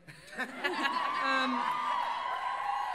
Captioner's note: cheers and laughter